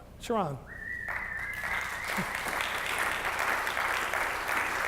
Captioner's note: audience applauds